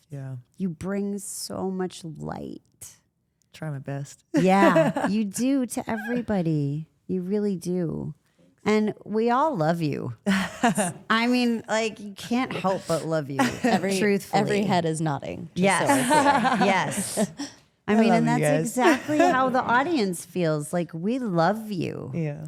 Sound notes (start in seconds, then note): 10.2 Rhea laughs; 15.6 Rhea laughs